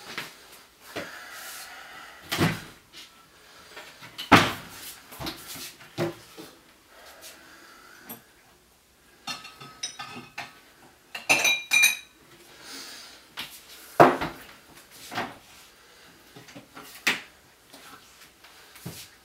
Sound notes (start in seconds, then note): 2.3 cabinet opens and closes; 11.1 glass sounds